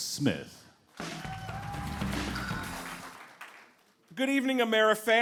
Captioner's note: applause